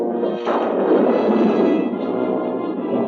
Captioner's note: thunder crashing